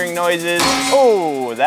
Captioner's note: snaps